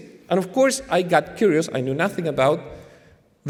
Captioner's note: none